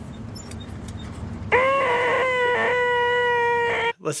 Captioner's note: hoooooooonk